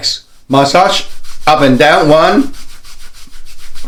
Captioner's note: cloth rustling